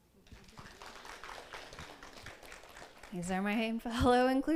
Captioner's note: audience applauds